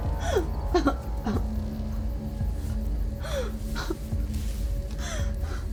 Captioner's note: brooding music; Dorothy sobbing